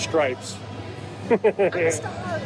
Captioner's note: laughing